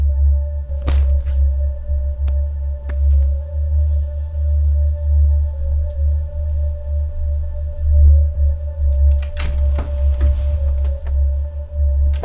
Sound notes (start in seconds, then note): 0.8 hammer thwacks; 4.2 suspenseful music; 8.9 door clicks; 12.0 door slams shut